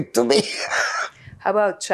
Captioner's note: laughing